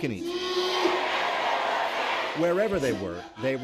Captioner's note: all shouting prayers